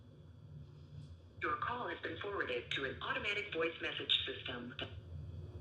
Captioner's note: voicemail